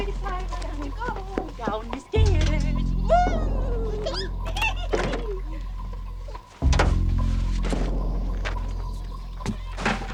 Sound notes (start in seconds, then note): 4.2 girl and giggle; 7.0 suspenseful music